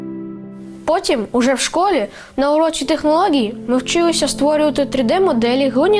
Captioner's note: speaking in foreign language